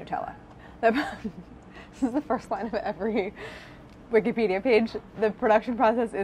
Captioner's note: laughing